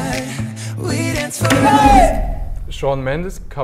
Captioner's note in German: Schrei